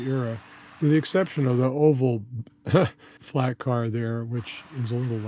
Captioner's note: chuckle!